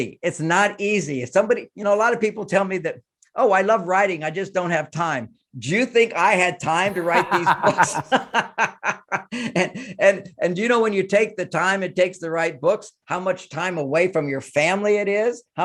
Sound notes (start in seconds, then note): 6.9 both laughing